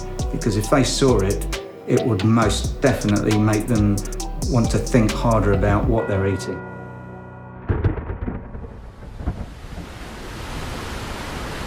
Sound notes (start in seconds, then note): 7.6 thunder rumbling; 9.3 water rushing